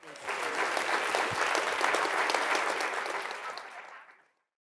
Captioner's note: audience applauding